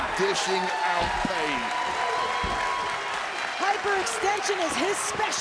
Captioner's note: crowd cheering